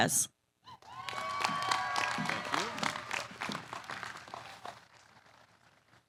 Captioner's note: applause